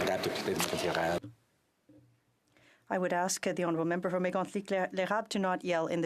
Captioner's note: some Applause